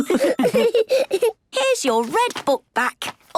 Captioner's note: laughs